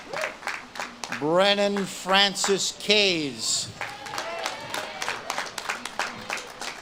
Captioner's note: audience claps and cheers